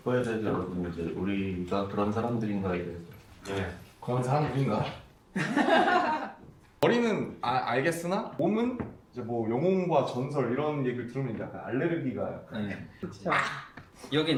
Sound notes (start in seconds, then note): 5.4 laughs